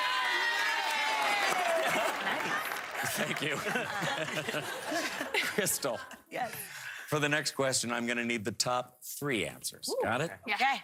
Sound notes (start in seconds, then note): 2.3 cheering